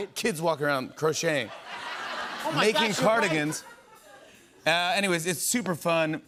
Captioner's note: laughter